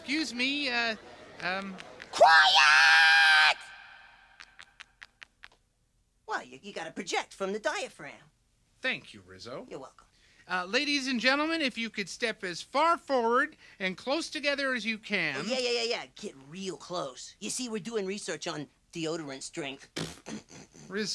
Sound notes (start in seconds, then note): 2.0 yells; 4.5 footsteps pattering; 20.1 laughs